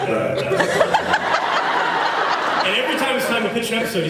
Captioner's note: laughs